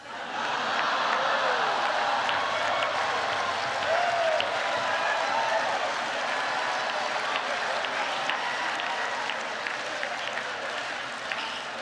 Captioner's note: laughter and applause